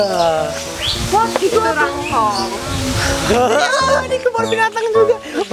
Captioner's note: random chattering